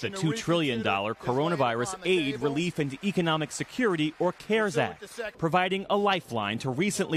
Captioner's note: cheers